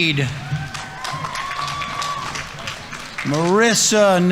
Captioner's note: audience applauding; audience members cheering